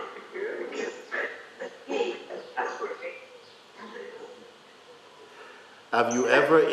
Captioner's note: voices in audience